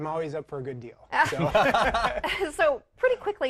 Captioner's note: laughs